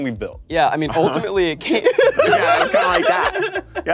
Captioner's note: laughs